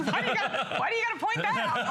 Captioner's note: laughter